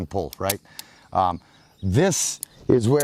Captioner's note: gun clicks